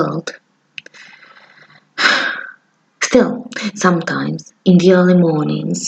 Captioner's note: sigh